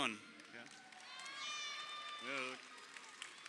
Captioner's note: crowd cheering